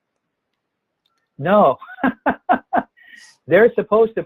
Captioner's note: laughs